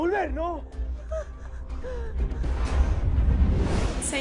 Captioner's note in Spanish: Sollozos